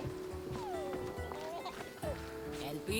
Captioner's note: Elpidios giggling